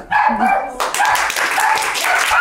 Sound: dogs bark; group claps

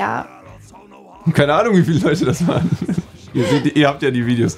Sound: both chuckle

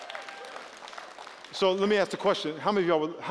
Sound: applause

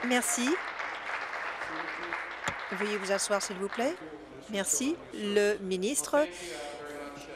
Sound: applause

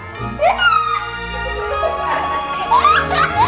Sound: laughing

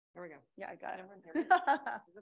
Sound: laughs

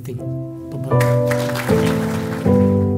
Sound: applause

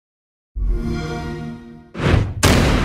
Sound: xbox sound

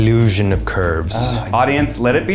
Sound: grunting

